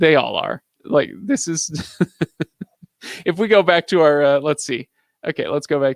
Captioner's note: laughing